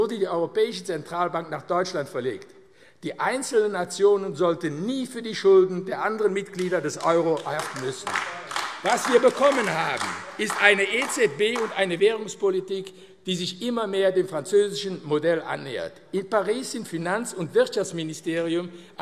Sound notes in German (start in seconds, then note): 8.1 Beifall AfD